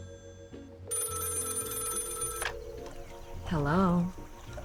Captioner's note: phone ringing